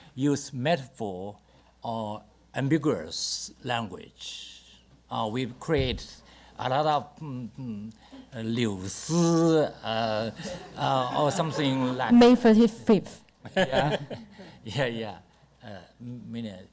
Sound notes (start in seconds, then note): 7.7 speaks Mandarin; 10.3 audience laughter; 13.6 panelists laugh